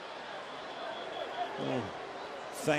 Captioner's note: whistle